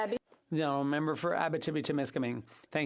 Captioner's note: speaking Indigenous Language